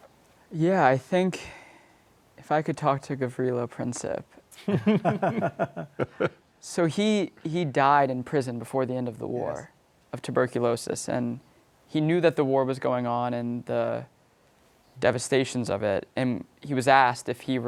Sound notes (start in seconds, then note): 6.1 light laughter